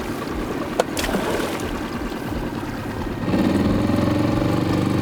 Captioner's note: motor slowly puttering